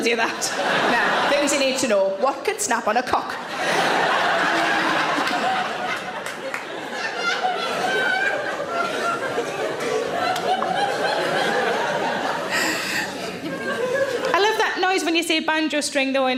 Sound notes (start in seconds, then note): 3.5 audience laughs; 10.5 audience laughs